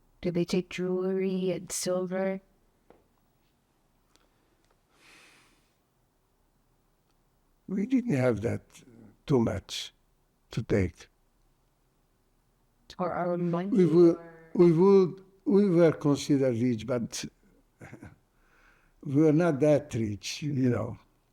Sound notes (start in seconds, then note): 17.2 laughing